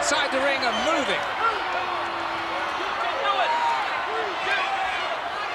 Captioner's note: crowd cheering